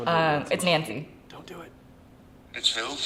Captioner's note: whispering